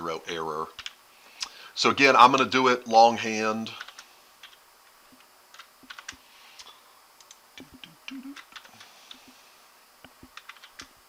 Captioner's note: a few seconds of silence while I type